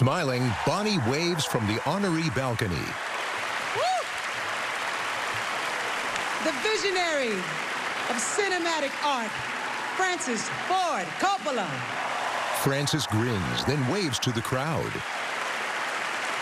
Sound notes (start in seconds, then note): 0.3 cheering and applause; 3.7 Queen Latifah whoops; 12.1 cheering and applause